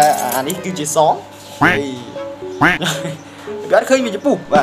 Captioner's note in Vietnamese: cười